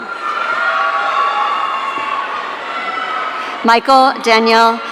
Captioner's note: audience cheering